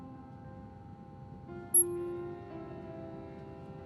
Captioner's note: screen beeps on